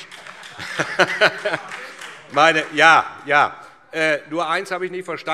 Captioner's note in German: Beifall SPD